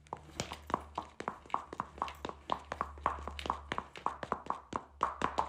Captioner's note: heels rhythmically tapping